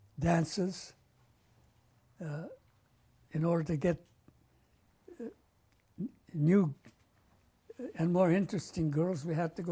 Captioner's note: pauses for 3 seconds